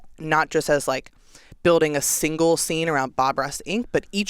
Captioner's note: none